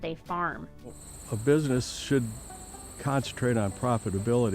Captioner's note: crickets chirping